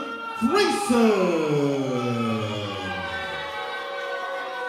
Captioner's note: audience boos